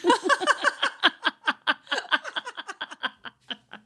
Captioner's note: laughing